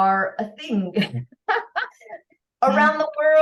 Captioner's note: laughter